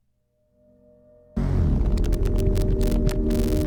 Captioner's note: sudden low static buzz